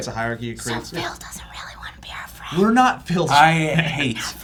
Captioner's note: mock whisper